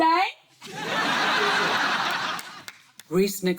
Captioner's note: laughter